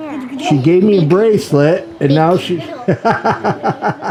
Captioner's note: laughs